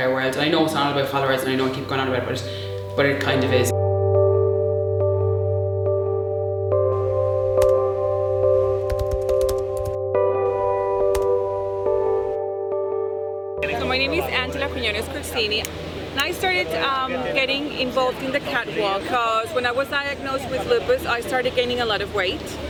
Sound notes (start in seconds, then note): 8.8 keyboard Typing